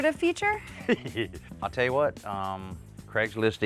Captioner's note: chuckles